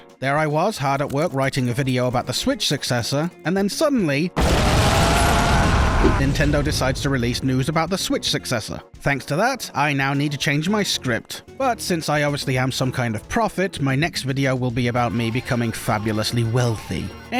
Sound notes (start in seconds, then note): 4.4 Torque Screams; 4.4 explosions Explode